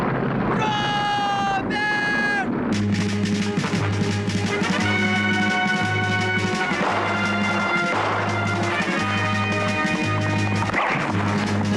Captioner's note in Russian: крик